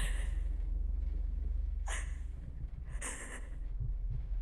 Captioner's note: Catherine crying